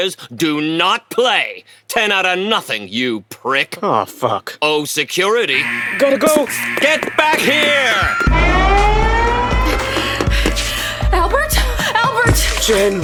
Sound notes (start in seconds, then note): 5.5 alarms sounding; 6.3 sounds of running; 6.9 running, sound of the street